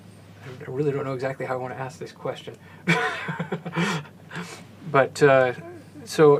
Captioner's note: laugh